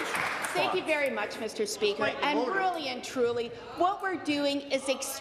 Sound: applause

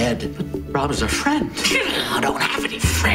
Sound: inner monologue

